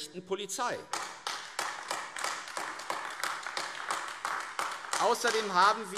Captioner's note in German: Beifall AfD